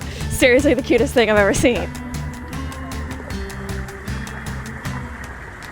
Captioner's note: water trickles